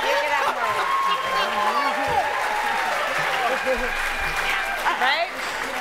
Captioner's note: cheering and applause